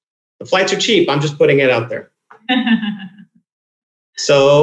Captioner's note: laughing